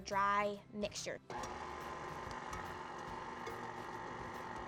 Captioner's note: mixer whirs